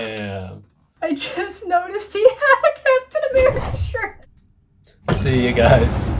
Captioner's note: laughs